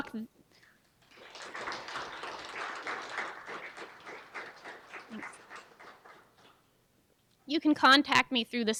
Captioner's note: applause